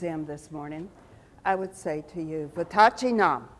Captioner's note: speaks foreign language